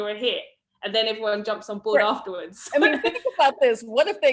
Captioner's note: laughs